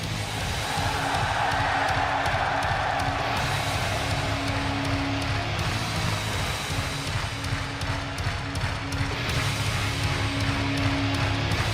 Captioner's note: crowd cheering